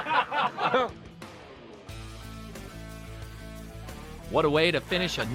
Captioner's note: laughter and boing sound effect